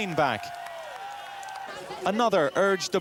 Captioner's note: audience cheers and applauds